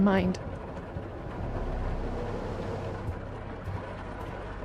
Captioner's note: thunderstorm continues